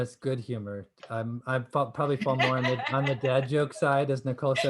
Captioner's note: laughter